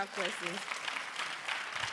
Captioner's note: applause